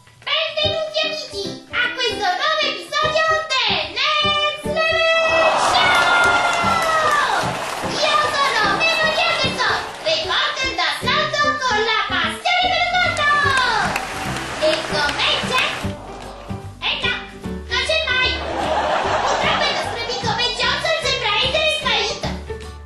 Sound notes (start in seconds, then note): 5.3 applause; 13.6 applause; 18.4 laughter; 22.2 laughter